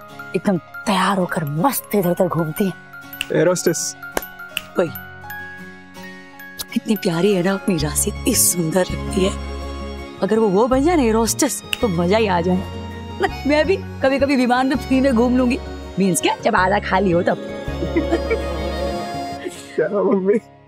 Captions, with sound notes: They are well-dressed and march around inside the flight. - Air hostess? - Yes! Our Rashi looks so beautiful. She's so adorable! It'll be great if she becomes an air hostess. I could get to fly for free sometimes. I mean I'll travel when it isn't crowded. [laughing] Mom, that's amazing!